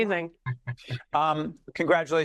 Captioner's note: laughing